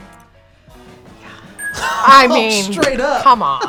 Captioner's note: whispers; laughs